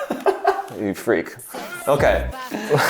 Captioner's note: laughing